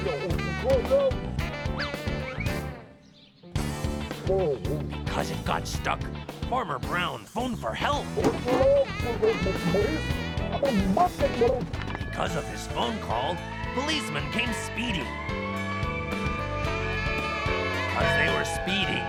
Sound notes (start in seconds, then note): 14.9 siren blaring